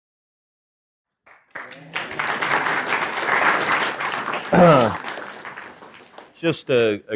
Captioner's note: applause